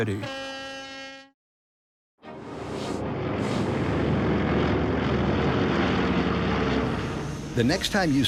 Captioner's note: airplane Motor